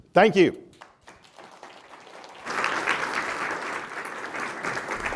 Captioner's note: applause